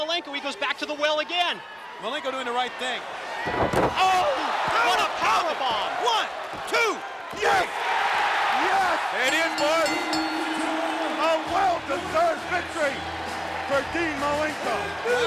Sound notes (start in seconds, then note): 7.7 crowd cheering; 9.2 bell dinging